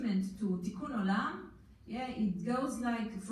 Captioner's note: foreign language